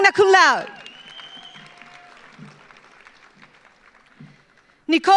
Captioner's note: audience applauds